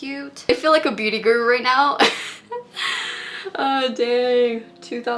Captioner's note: laughs